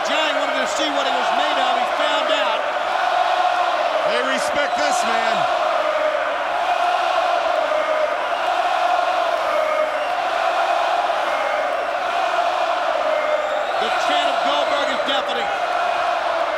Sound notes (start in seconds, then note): 5.7 crowd chanting